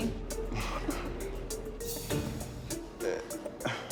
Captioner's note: chuckles; sighs, chuckles